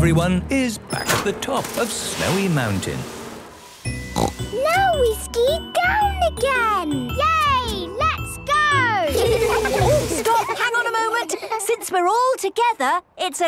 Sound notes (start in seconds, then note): 4.1 snorting; 9.0 laughter